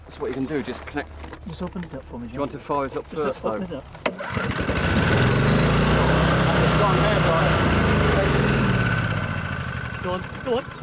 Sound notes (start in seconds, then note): 0.0 team chattering; 4.2 fan whirring